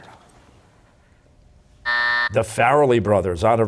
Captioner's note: buzzer